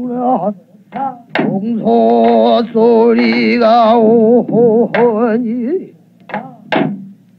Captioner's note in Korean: 嗚嗚